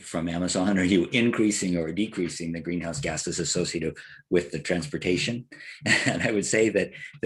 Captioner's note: laugh